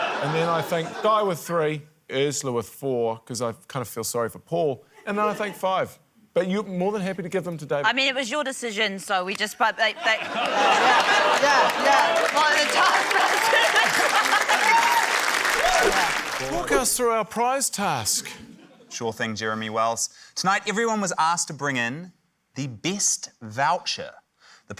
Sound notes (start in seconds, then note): 10.2 stammers; 14.1 cheering, applause